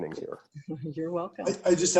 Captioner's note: laughter